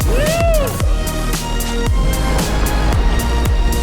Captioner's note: man whooping; upbeat electronic music